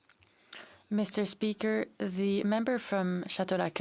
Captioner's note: speaking French